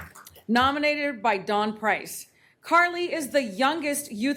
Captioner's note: applause